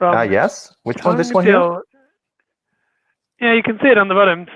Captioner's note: presenters chattering